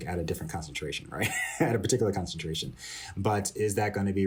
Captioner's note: laughter